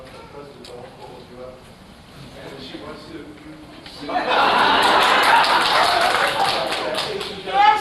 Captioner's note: laughter